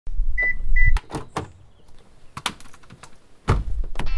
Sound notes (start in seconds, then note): 0.4 car beeping; 0.9 door opens